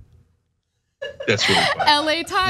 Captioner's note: laugh